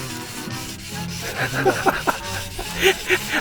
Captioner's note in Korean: 웃음